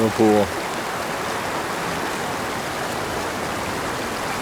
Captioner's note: water running